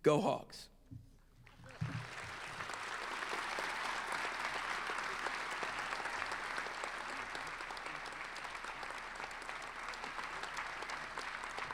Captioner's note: applause